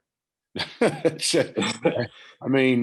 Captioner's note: laughs